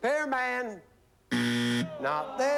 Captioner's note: buzzer